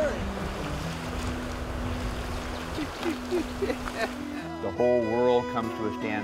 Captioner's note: laughter